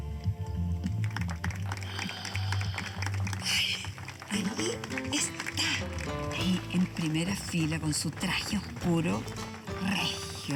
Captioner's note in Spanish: aplausos